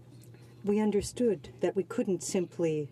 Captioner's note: speaking French